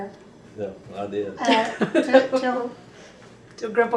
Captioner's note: laughter